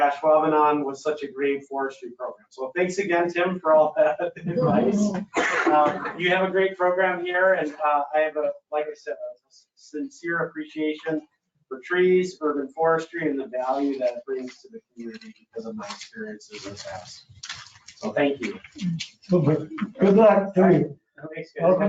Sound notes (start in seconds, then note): 4.4 they all laugh